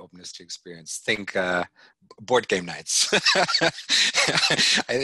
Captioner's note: laughing